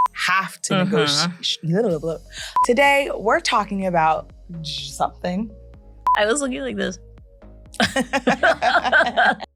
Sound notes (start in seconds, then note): 1.2 blabbers; 7.7 both laughing